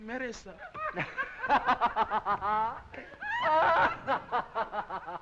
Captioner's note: boisterous laughing